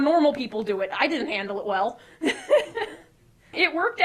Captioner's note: laughing